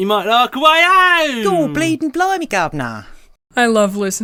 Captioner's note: exaggerated accent